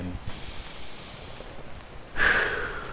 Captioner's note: deep breath